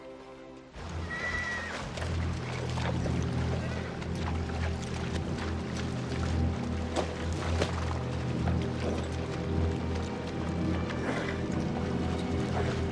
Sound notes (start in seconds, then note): 1.0 horse neighs; 1.0 tense music